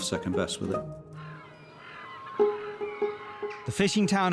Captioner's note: birds chirping